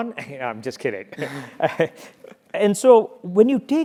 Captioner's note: laugh